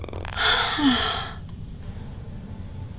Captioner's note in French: Soupire fort